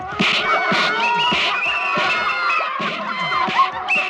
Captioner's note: whistle blows